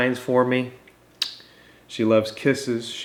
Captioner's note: lips smacking